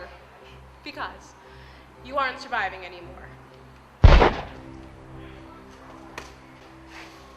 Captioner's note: gun shot